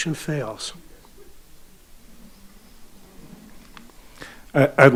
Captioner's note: audience chattering